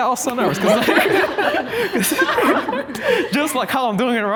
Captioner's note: group laughing